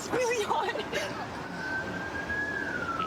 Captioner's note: siren wailing